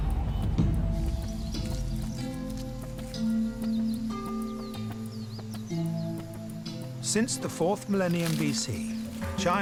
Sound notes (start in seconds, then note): 1.6 birds whistling